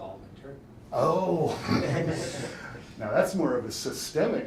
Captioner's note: chuckles; audience chuckles